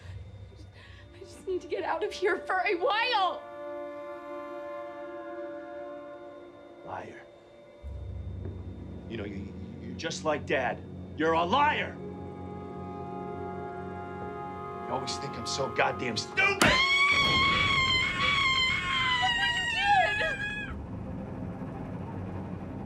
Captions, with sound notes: - J'ai juste besoin de sortir d'ici un moment. - Menteur. Tu sais que tu es comme papa. Tu es un menteur. Tu penses toujours que je suis tellement stupide. (cris hystériques) - Regarde ce que tu as fait ? (musique dramatique)